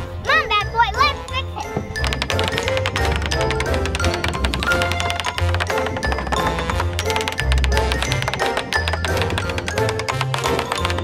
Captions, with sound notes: - Come on, Bat Boy. Let's fix it. (Fast tools hammering)